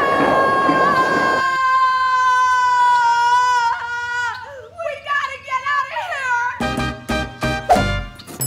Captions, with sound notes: [screaming in unison] No! We've got to get out of here! [Latin music plays]